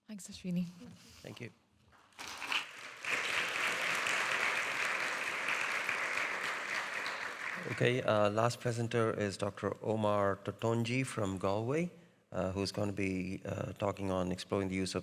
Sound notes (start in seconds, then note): 2.2 audience applauding